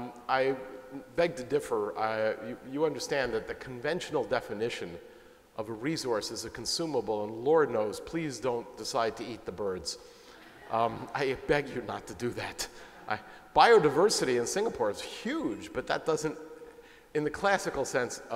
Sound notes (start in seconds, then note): 10.4 laughter